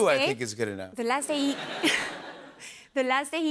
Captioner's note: laughter